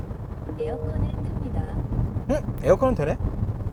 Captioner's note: digital sound : Turning AC on